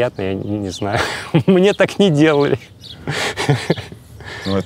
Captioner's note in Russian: смеясь